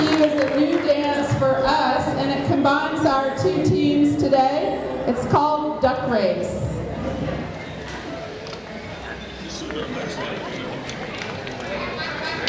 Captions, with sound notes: is a new dance for us and it combines our two teams today. It's called Duck Race. (chattering)